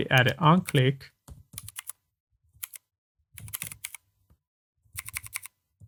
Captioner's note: typing